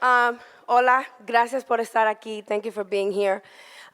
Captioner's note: foreign language